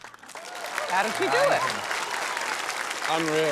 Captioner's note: cheering, applause